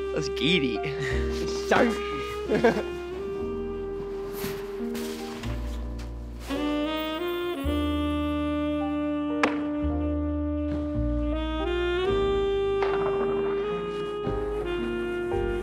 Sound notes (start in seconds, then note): 2.5 slow jazz music; 9.8 snowboard hitting rail